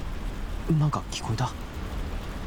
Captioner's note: none